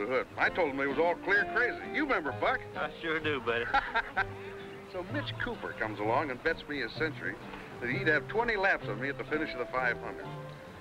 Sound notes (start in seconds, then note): 3.5 men laughing